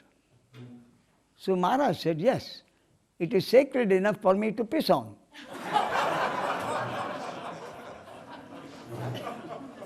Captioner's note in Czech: smích